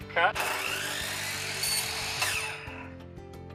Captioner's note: saw whirs; mellow music